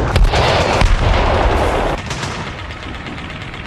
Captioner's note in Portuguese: Explosões